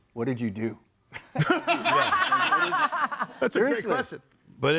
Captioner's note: audience laughing